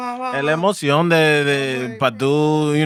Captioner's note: speaking Spanish